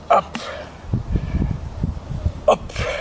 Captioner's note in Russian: Выдох